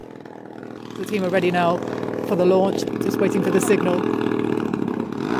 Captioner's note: drone humming; drone buzzing